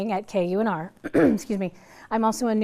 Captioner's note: clears throat